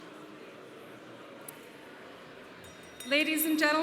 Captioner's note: conference hall chatter